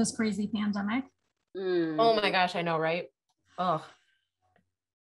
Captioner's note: sighs